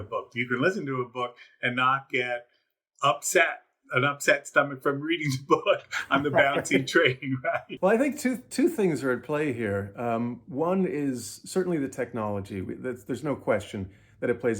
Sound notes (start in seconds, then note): 5.2 laughs; 5.9 laughter